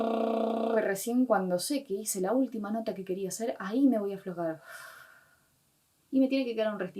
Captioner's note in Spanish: exhala